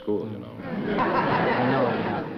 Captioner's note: laughter